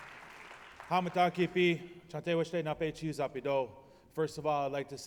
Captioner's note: speaking his language